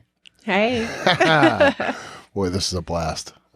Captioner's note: both chuckling